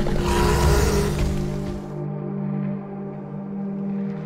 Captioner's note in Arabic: العقرب ريكس الشخير